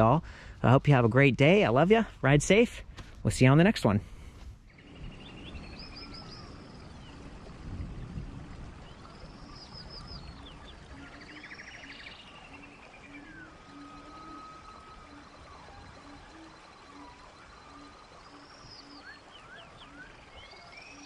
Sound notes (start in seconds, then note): 7.3 water bubbling; 10.4 birds chirp